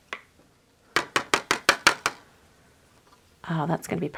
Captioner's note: nail tapping